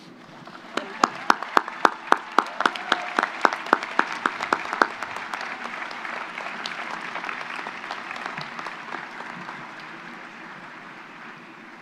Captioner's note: applause